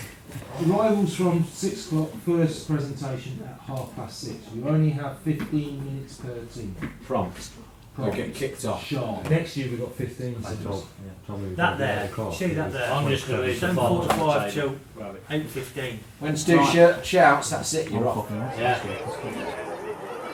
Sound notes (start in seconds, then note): 12.3 general chatter